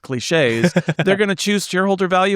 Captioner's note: laughing